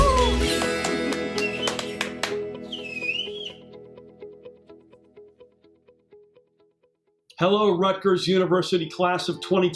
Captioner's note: claps; whistles